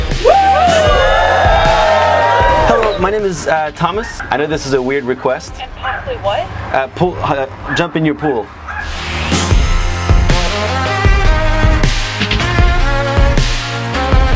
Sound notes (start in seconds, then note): 0.1 cheering; 6.5 stutters